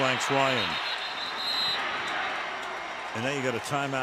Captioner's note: whistle